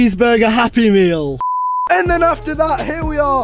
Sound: beep

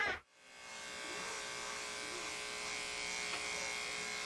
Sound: shaver buzzing

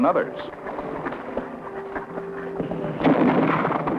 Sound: firing sound

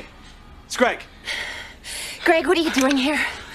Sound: both panting

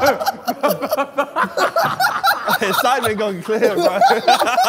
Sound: laughter

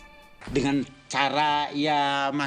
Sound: speaking Indonesian

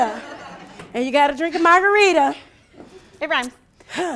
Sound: sighs

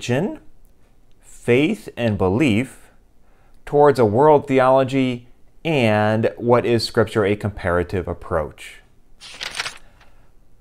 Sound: page turning

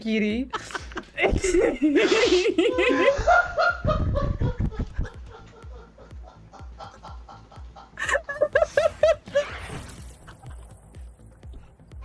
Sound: everybody laughing

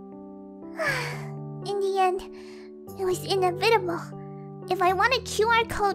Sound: sigh

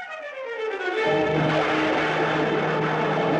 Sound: thunder Rumbling

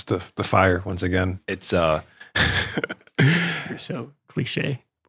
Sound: laughs

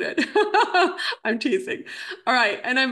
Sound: laughs

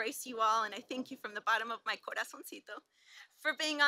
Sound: speaks Spanish

